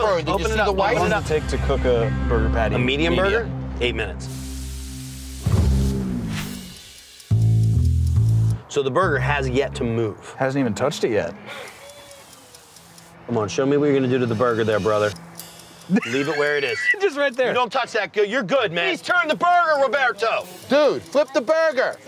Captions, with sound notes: - How long does it take to cook burger patty? - A medium burger? - Eight minutes. (ticking) - So the burger has yet to move. - Hasn't even touched it yet. - Come on, show me what you're gonna do to the burger there, brother. Leave it where it is. - Just right there. - We don't touch that. You're good, man. - Please turn the burger, Roberto. - Dude, flip the burger.